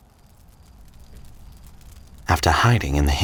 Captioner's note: fire crackling